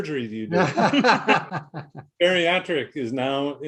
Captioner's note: laughing